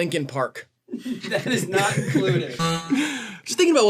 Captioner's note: all laughing